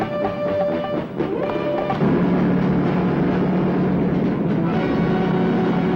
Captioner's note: suspenseful music; truck engine whirring; dramatic music